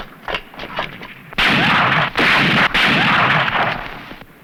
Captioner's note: gunfire